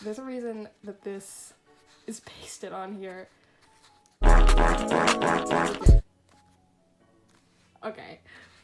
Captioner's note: sound affect of multiple farts in quick succession